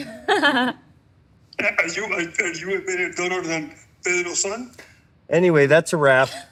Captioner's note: laughs; speaking in spanish